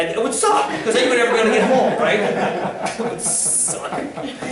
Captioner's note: laughter